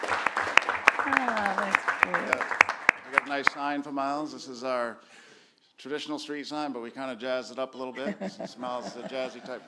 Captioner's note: applause